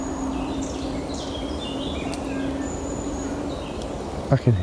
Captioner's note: birds chirping